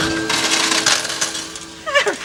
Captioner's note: coins clinking